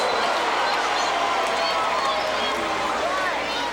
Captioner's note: audience shouting